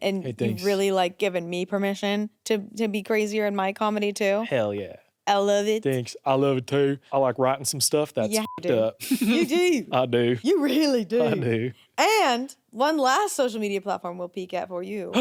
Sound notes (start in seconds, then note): 8.2 beep